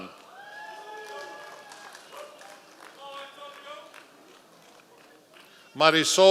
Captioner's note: members of the audience cheering